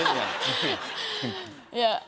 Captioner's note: laughter